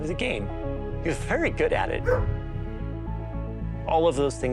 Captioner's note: dog barking